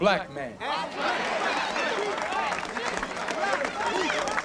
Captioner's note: applause